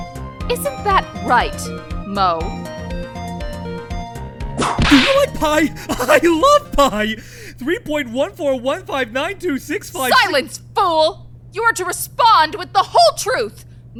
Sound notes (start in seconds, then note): 4.7 whip crack!